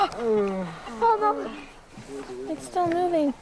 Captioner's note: groans